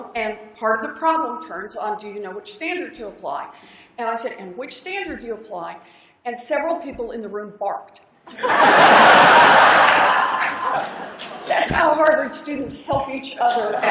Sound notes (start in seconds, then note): 8.2 laughter